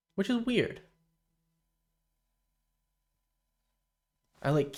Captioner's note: silence